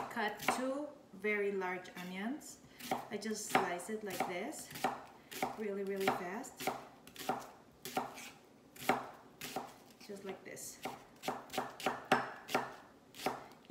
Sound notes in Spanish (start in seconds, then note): 6.6 chopping continues; 11.2 chopping continues